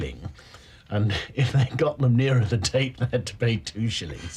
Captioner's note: laughter